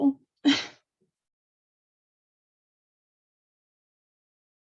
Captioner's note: chuckles